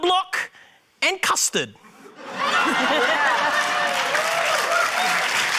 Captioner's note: laughter, cheering, applause